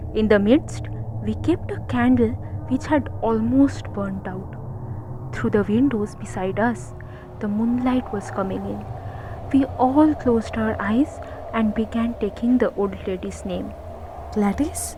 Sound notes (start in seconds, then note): 7.8 wind blowing lightly